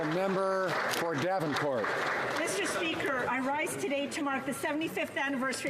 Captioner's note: applause